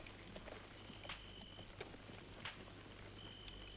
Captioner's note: none